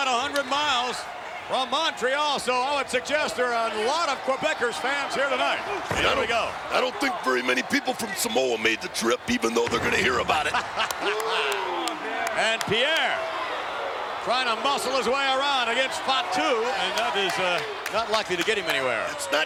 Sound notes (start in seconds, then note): 10.1 laugh